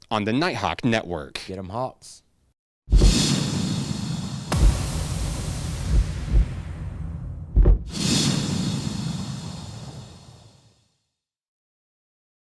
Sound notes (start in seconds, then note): 2.9 whooshing outro transition; 5.8 wings flapping; 8.1 whooshing outro transition